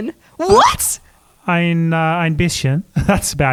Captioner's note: speaks in foreign language